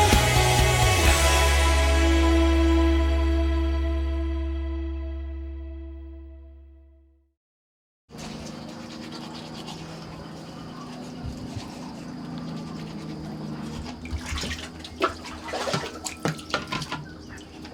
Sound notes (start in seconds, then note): 8.5 low traffic sounds; 14.2 water splashing